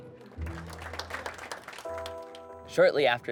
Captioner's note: congregation applauds